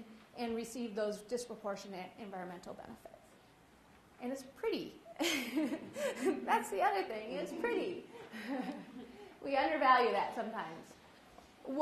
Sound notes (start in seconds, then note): 5.2 laughs